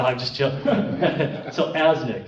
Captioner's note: laughing